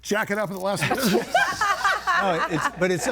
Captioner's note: everybody laughing